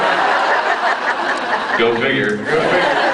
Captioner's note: laughs